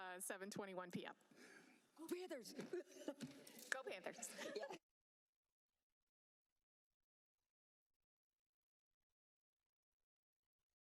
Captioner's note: laughter